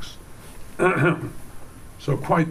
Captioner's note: clears throat